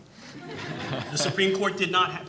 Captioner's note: audience laughing